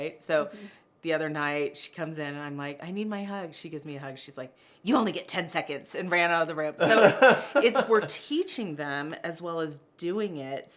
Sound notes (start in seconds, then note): 6.8 laughter